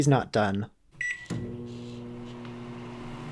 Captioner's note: microwave noises